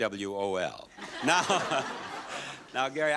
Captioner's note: audience laughs